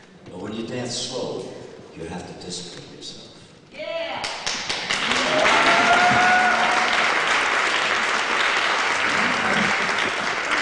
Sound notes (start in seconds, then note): 4.2 applause